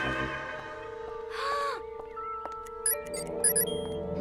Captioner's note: suspenseful music; gasps; electronic buzzing